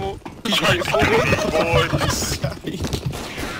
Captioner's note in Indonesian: Ketawa